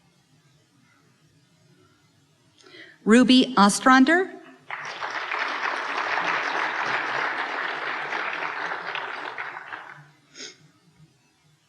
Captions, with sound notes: Ruby Ostrander. (applause)